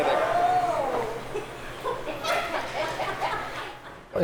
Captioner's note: laughter